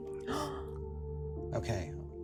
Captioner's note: gasps